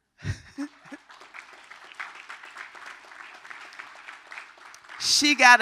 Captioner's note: applause